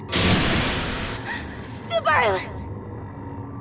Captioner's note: boom; gasp